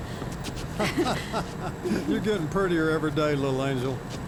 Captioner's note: laughs